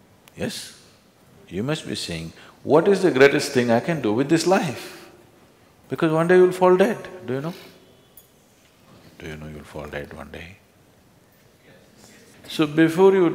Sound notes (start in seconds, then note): 10.9 whispers